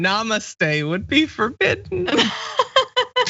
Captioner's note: laugh